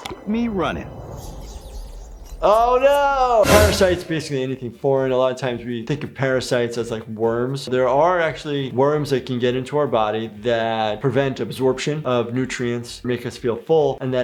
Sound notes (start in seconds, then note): 0.5 beep; 1.6 squeaking